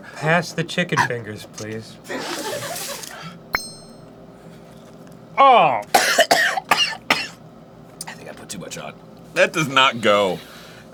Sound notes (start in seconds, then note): 3.5 clink; 5.9 instantly coughing